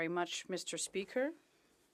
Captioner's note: speaking French